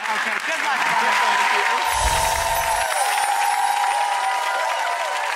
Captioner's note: audience claps and cheers